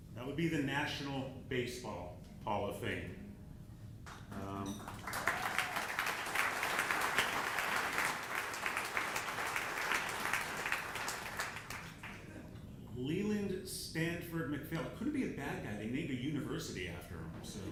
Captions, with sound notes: That would be the National Baseball Hall of Fame. (audience applauding) Leland Stanford MacPhail, couldn't be a bad guy, they named a university after him.